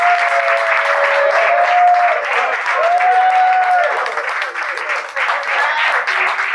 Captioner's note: students applauding; students cheering